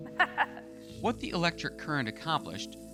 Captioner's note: laughs